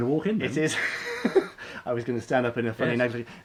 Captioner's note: laughing